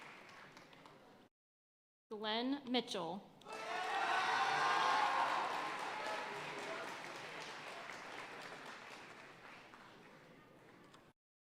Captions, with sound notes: Glenn Mitchell. (audience cheering and applauding)